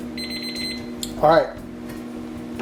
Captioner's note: timer beeps